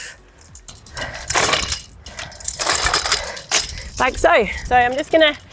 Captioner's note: frame rattling